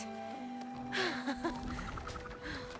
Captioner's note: laughs